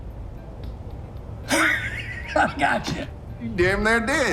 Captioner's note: laughing